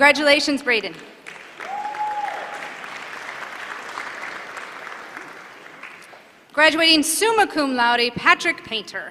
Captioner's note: applause